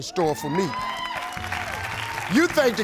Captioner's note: crowd applauds